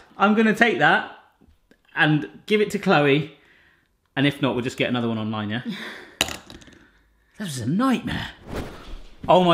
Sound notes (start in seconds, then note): 5.8 laughing; 5.8 toy rattling; 8.7 camera whooshing